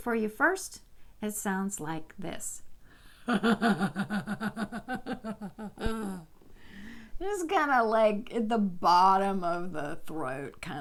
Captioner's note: laughter